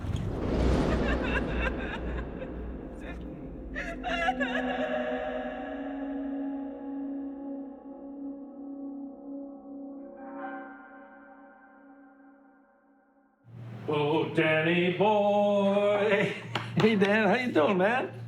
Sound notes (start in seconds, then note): 1.7 crying